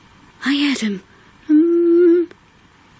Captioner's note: hum